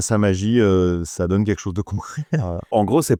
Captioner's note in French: rire